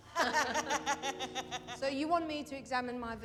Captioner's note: laughs